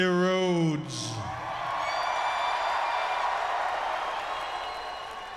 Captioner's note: audience cheering